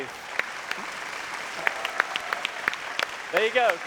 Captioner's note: audience applause